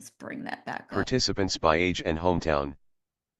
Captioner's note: screenreader voice